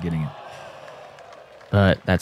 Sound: applause

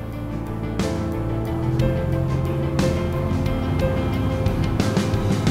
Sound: boat motor revving

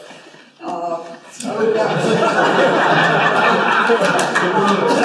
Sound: laughter

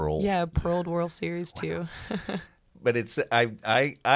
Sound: laughs

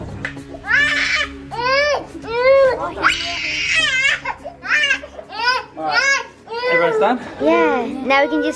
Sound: disco Crying

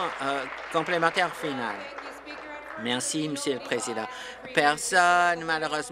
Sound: applause

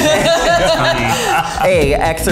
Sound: all laughing

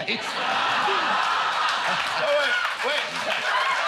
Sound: laughter

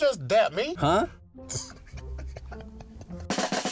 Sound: both laughing

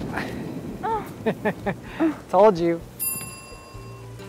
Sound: laugh

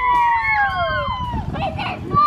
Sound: father laughs; mother exclaims

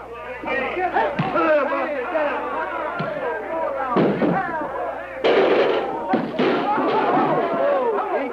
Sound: cheering

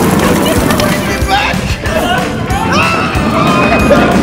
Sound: yelling

